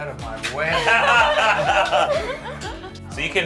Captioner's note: laughs